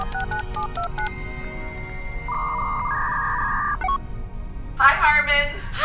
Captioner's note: dial-up modem connecting; boop boop boop